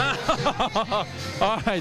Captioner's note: laughter